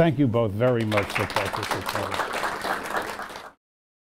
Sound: applause

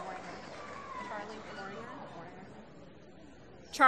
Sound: applause

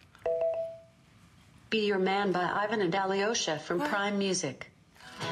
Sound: none

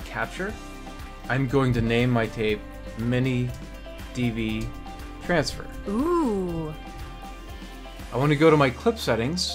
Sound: female voice: Ohhh

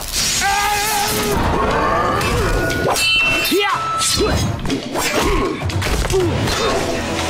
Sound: grunting

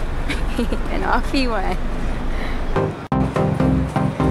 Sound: camera girl laughs

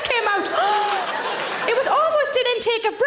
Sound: Sarah gasps

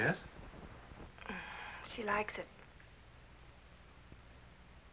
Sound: sighs

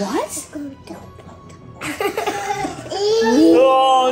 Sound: babbling

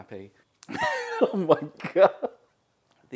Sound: laughs

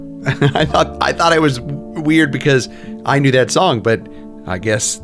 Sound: laughs

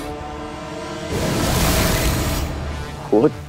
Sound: sound effect playing

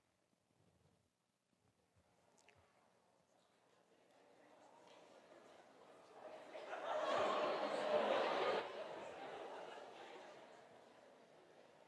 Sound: audience laughs

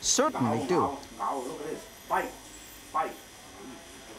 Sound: speaking in foreign language

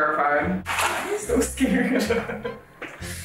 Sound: laughing

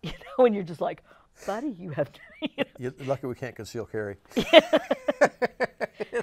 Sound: laughs

